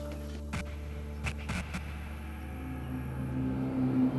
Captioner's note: static scratching